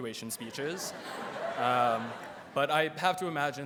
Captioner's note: audience laughs